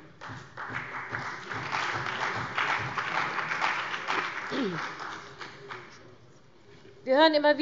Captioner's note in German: Beifall bei dem BÜNDNIS 90/DIE GRÜNEN und der CDU